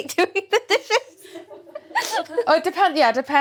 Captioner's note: laughs